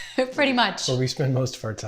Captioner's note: chuckles